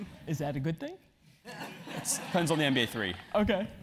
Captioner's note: laugh